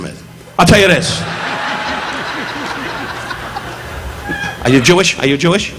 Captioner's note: audience laughing